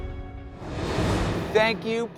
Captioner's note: uplifting music; air whooshing